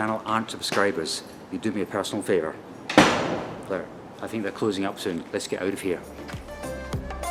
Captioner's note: bang!